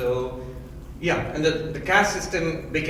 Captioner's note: none